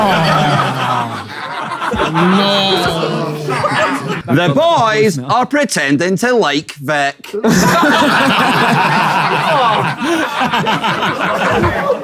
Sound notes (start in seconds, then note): 0.0 people in room laughing and groaning; 7.3 people in room laughing